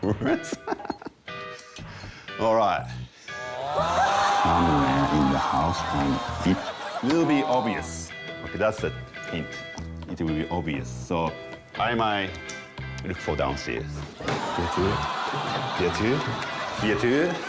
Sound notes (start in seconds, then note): 3.1 groaning